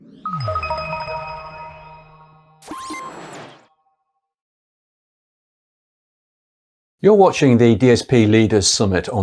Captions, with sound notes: (enlightening music) (logo beeps) - You're watching the DSP Leaders Summit